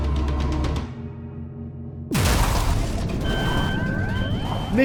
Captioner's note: crash and siren